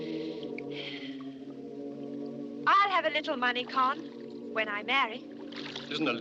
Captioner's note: sighs